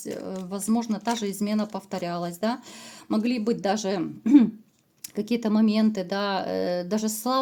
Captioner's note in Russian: откашливается